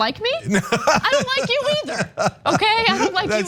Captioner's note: laugh